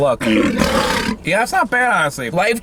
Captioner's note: tiger growling